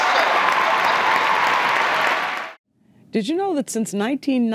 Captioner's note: audience applause